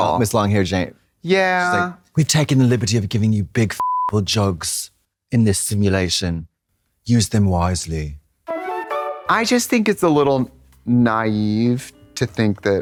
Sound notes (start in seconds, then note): 3.8 beep; 8.3 bright chime